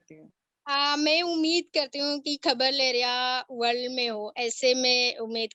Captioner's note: speaks foreign language